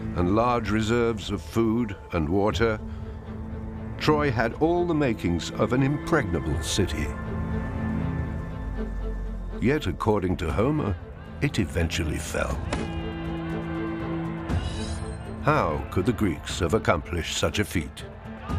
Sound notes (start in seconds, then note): 9.0 upbeat music; 12.5 soldiers shouting; 13.5 ominous music